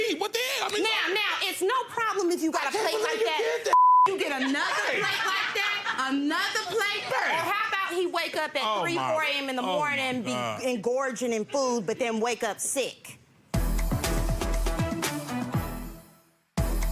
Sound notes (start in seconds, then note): 0.0 yelling; 3.7 beep; 13.5 upbeat music